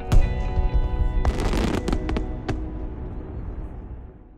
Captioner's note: fireworks booming